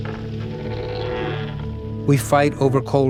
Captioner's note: door creaking; soft somber music